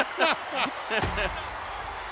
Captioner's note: gorilla laughing